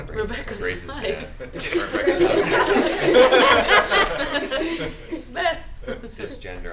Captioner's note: laughter